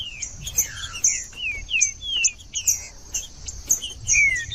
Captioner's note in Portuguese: trinca ferro cantando